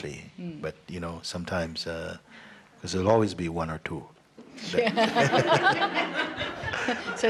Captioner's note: laughter